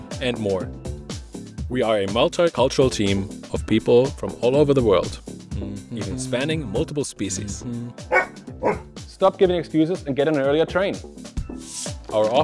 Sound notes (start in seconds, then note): 8.6 dog barking; 11.5 upbeat music